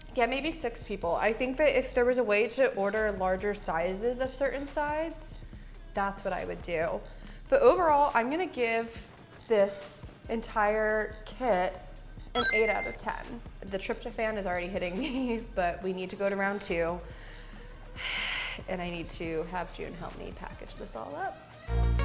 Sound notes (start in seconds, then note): 12.3 ding; 18.1 exhales deeply; 21.5 smooth music